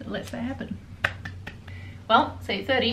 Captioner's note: applauding